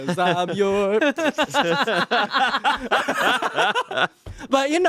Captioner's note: everyone laughs